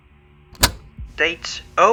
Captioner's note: cassette tape plays